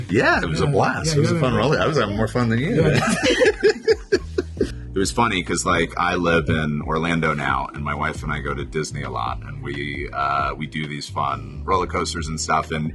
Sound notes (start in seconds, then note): 2.4 laughing